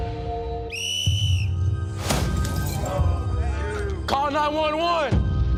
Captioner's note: whistle blows